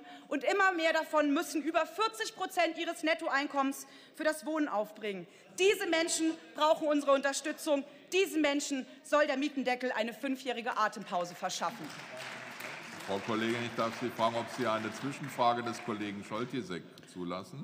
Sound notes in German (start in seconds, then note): 11.6 Beifall